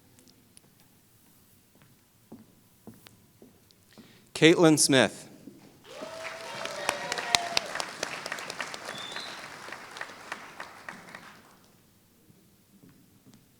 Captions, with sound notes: Kaitlin Smith [Applause]